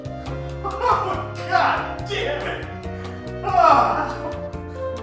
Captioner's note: light music; laughs